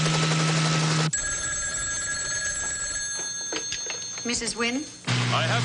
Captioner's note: phone rings